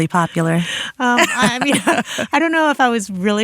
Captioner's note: both laughing